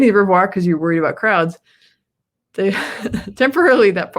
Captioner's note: laughs